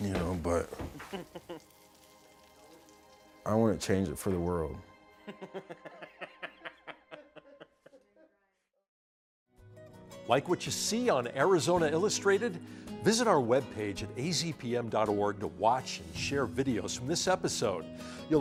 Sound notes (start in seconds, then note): 5.2 laughing